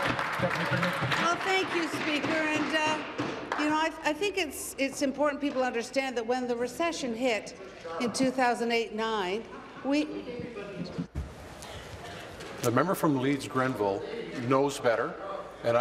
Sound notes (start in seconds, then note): 2.6 applause